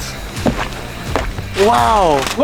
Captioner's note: squish noises